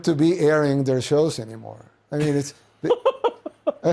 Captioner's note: tucker laughs